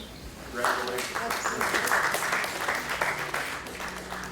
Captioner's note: courtroom applauds; gentle music begins